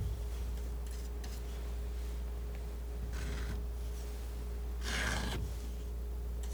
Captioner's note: scratching